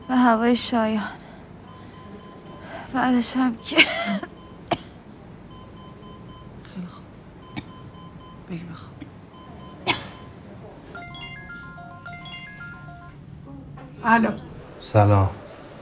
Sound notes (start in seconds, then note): 4.6 coughing; 10.9 mobile ringing